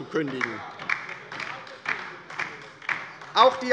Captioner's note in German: Beifall bei der LINKEN - Zurufe von der CDU